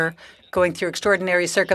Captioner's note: speaking French